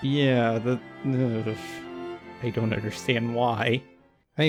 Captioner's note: shudder